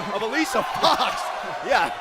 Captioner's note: crowd cheering